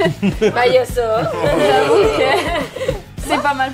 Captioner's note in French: rire